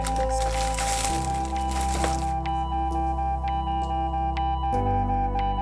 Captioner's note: heart monitor beeps